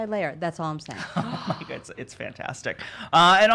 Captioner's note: laughing